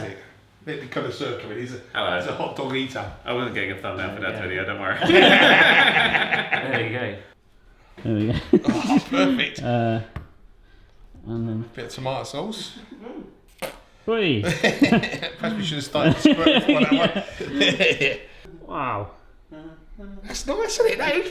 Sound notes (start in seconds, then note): 5.0 all laugh; 13.7 bottle spurts; 14.4 both laugh